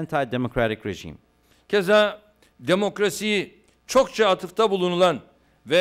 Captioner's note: non-english speech